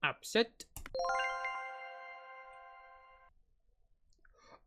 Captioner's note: accept sound